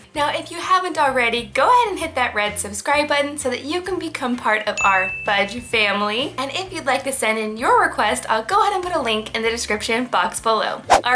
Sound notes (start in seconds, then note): 4.8 bell dings